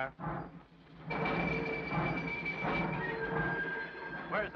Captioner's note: train chugs